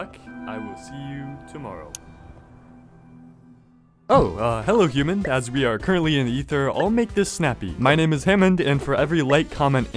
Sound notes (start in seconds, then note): 1.9 click